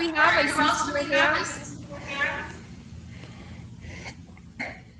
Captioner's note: voice echoing